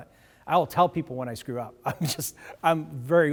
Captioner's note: laughs